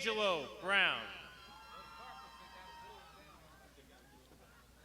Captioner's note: crowd shouting